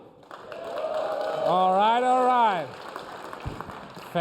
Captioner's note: cheers and applause